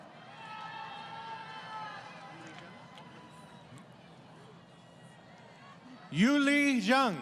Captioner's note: crowd Cheering